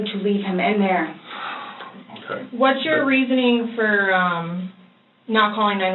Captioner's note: sighs